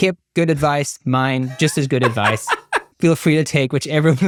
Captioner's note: laughs